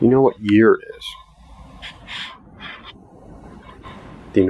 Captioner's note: eerie voice